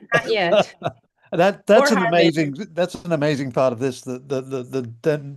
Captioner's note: laughs